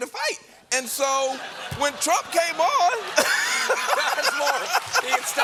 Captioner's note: laughter